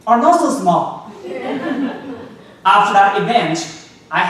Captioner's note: audience laughing